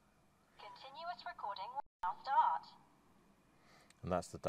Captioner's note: automated voice: 'continuous recording will now start'